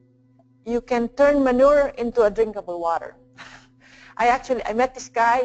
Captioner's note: laugh